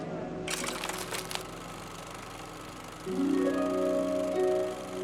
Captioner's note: projector whirring; gentle orchestral music continues